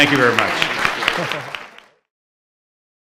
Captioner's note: laughing; audience clapping